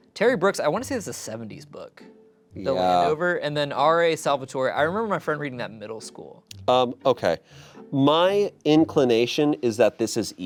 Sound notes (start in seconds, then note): none